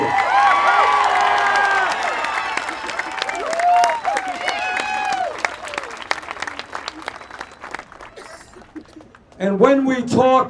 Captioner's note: applause